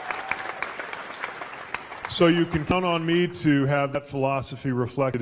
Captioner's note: cheers/applause